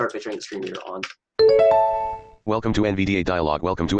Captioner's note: bell chiming; computer Voice